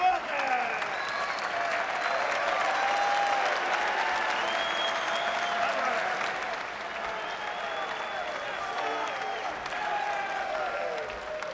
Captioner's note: applause